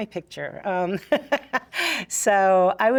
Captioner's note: laughs